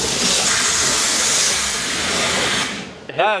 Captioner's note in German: spritzen